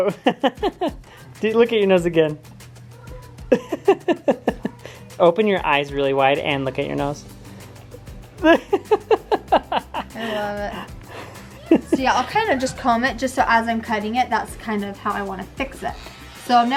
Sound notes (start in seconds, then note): 0.0 husband laughs; 3.2 laughs; 8.6 laughs